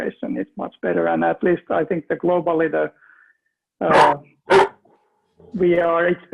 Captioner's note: dog barking